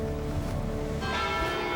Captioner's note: bells chiming